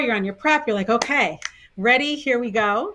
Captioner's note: claps and finger snaps